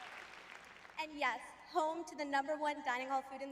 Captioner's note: audience applauding